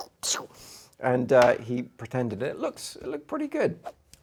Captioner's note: squirty noises